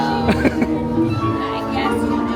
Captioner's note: laughing